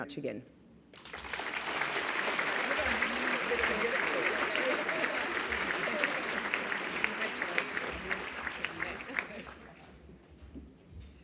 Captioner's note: applause